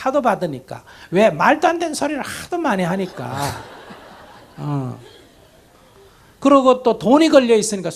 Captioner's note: audience laughter